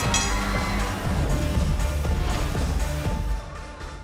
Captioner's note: bell ringing